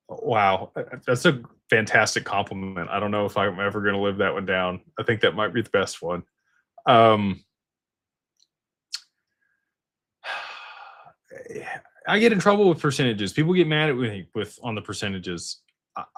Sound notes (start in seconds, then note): 10.2 sighs